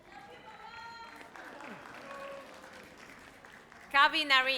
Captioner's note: audience applauds